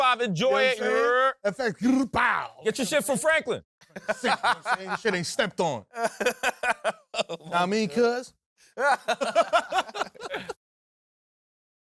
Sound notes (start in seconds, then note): 1.9 vocalizes; 3.8 laughs; 6.8 south central accent; 8.8 laughs